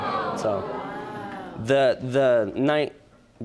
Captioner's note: audience groans